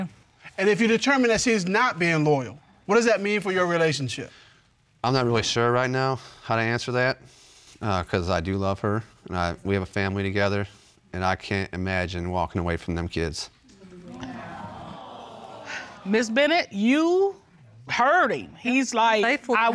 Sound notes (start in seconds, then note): 13.8 sighs; 13.8 audience awe